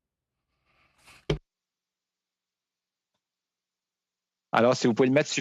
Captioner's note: speaking French